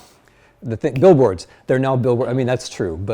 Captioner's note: snaps fingers